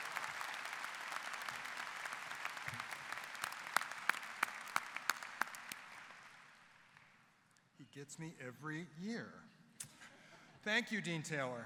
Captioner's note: applause